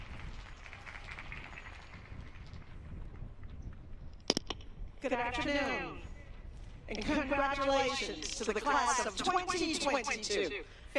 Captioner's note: applause